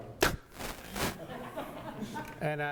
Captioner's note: audience laughter